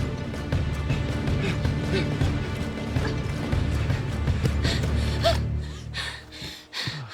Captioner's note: heavy breathing